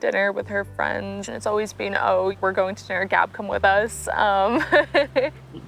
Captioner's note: laugh